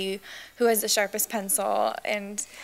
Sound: laughs

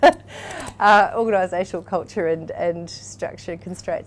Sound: laughs

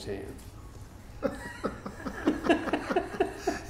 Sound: laughing

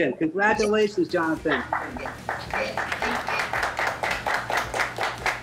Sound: group applauding

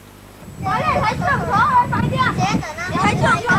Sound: chatter of childrens

